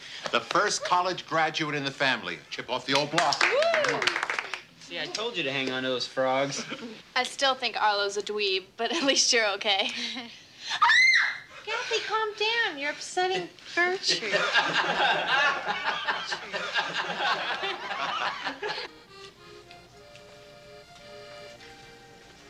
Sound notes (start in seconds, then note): 3.3 Annie cheers; 10.7 Kathy screams; 14.1 everyone laughing; 19.0 italian music playing